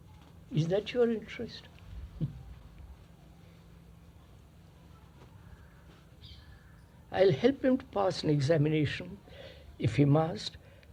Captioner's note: laughs